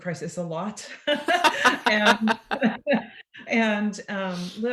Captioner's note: both laugh